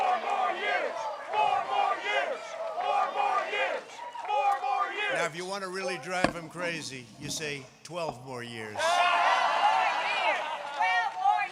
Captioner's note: chanting "four more years!"